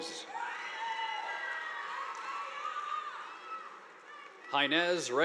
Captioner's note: audience applauding